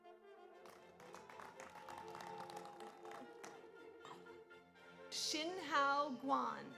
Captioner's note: audience applauds; audience cheers